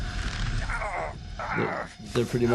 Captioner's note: snake groans